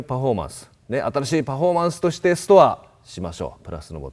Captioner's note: translates into Japanese